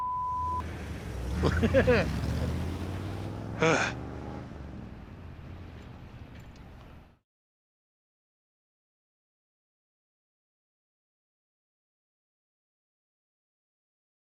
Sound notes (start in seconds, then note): 1.4 chumlee chuckles; 3.6 sighs